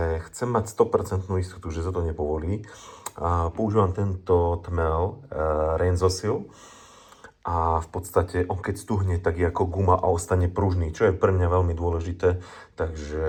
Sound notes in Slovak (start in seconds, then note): 2.7 smrkanie